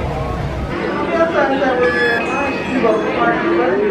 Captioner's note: machine chimes